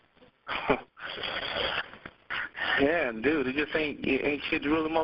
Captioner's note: laughing